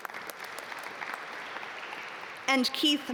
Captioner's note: audience applaud